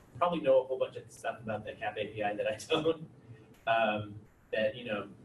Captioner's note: laughs